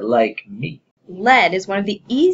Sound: Vanishing sound: LM and PP vanish

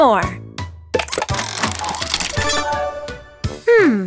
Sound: cranking

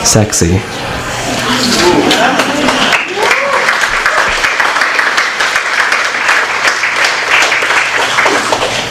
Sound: applause

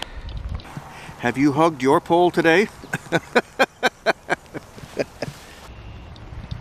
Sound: laughing

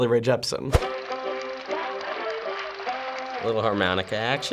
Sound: film reel clicking; zydeco music

